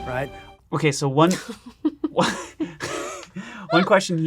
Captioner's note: laughing